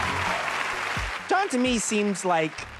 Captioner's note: applause